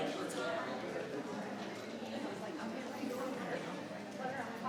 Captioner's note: group chattering